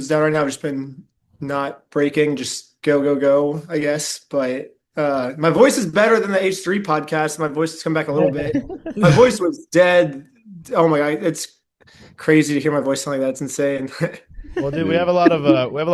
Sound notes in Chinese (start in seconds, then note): 14.4 笑声